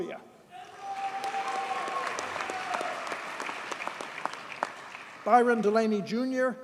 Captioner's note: audience cheers and applauds